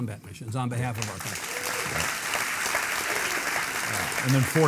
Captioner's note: audience clapping